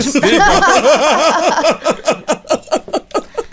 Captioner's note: laughter